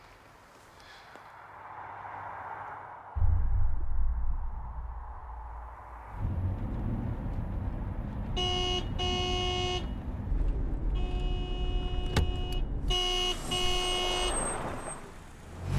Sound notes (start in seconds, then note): 8.2 horn honking; 10.3 honking continues